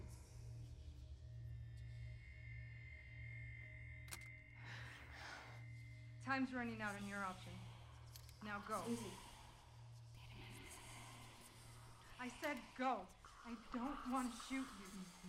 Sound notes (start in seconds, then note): 11.5 creepy whispering